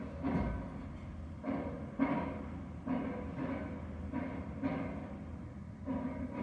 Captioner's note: loud industrial hammering